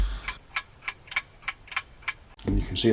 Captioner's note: clock ticking